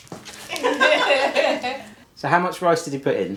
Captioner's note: both laughing